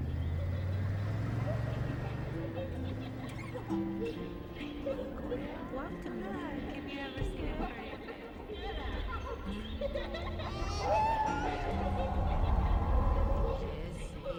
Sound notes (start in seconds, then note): 5.9 echoing voices of characters replay